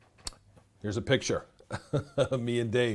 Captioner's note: laughs